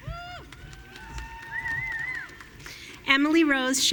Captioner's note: audience cheering